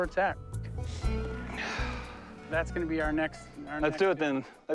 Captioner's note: exhales